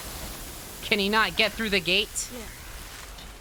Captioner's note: jokingly